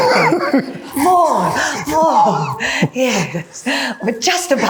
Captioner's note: chuckling